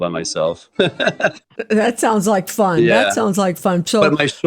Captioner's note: laughs